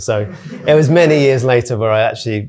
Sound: audience laughing

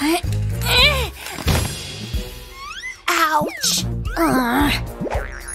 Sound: groans

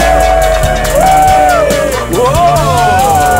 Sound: hooting

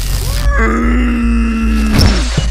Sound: monster screams

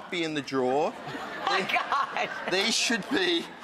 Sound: audience laughs

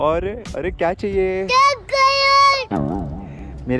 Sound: A kid blabbers

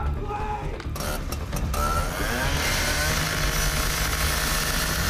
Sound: indistinct shouting; buzzsaw revving

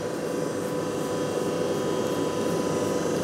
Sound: machine whirring

